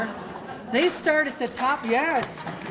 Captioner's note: laughter and applause